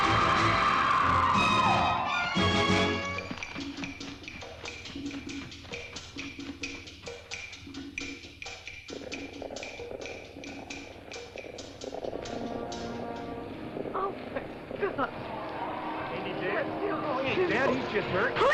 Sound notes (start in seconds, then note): 0.0 Nellie screams; 0.0 suspenseful music; 3.1 tense music; 8.9 hooves echo; 8.9 tense music